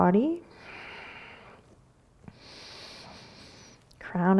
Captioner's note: breathing